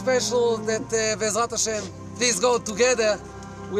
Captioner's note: speaking in Hebrew